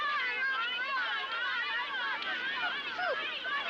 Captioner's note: kids yelling